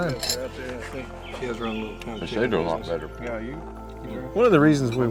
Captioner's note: indistinct conversation